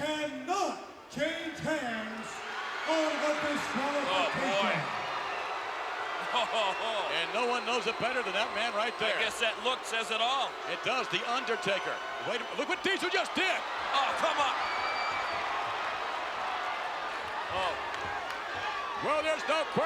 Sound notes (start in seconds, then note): 4.8 laugh